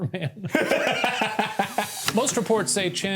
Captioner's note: laughs